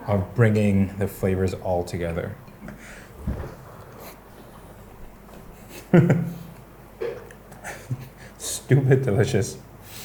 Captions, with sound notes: of bringing the flavors all together. [chuckling] Stupid delicious.